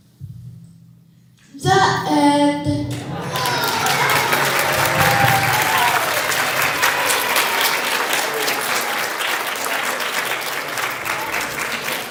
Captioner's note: applause